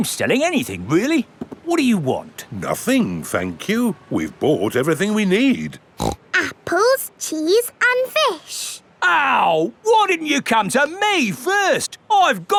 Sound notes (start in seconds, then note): 6.0 snorts